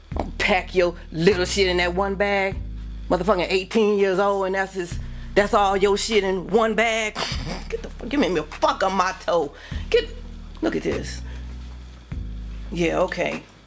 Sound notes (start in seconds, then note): 7.2 mom laughs